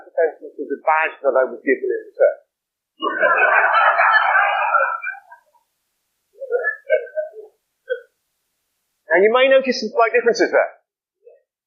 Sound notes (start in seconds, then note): 6.0 laughter